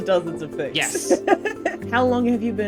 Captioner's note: laughs